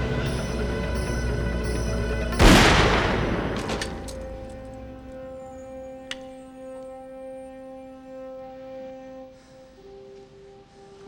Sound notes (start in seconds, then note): 2.4 gunshots blast